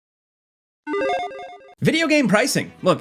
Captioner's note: electronic chiming